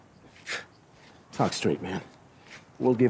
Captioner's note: laughs